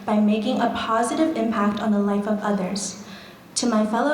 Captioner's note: none